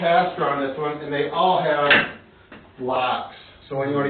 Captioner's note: lock thunks